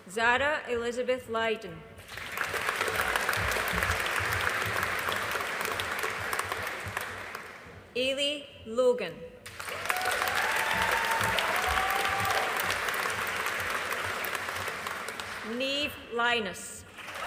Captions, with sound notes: Zara Elizabeth Leyden. (AUDIENCE APPLAUDING) Eilidh Logan. (AUDIENCE APPLAUDING) Niamh Lynas.